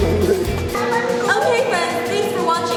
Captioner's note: children chattering